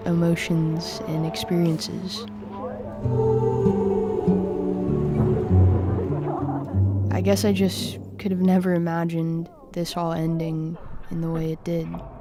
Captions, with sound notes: emotions, and experiences. (wistful music) (background chatter) I guess I just could've never imagined this all ending in the way it did.